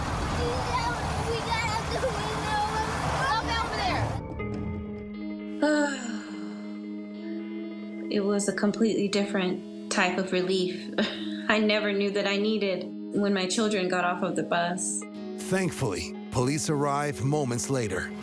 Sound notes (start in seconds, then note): 0.1 speaking tearfully; 5.1 sighs; 10.8 chuckles